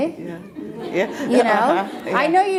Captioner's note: laughing